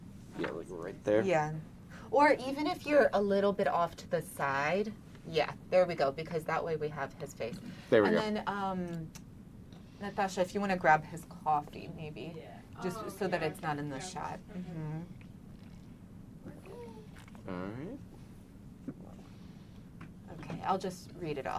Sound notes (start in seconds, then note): 14.9 drinking